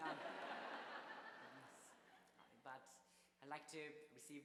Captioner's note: audience laughs